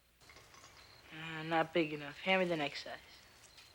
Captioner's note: metal clinking